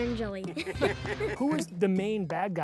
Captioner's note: laugh